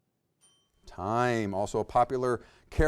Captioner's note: bell dings